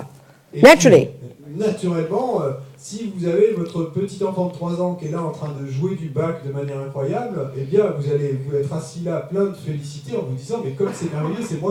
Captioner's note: French